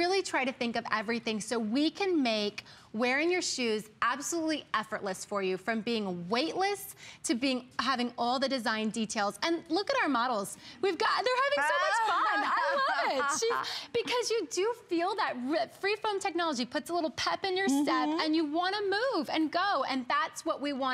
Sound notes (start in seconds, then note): 12.0 laughter; 15.3 laughter